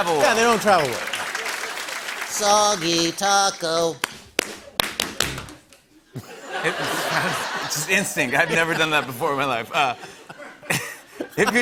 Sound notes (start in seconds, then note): 3.9 rhythmic clapping; 6.1 laughter